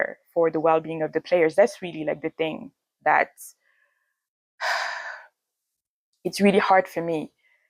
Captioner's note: sighs